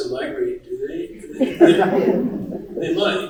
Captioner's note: laughter in the audience